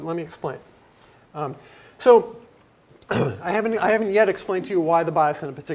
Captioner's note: cough